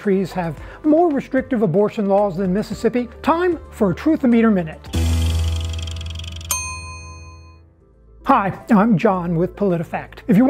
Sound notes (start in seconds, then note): 5.8 bell dinging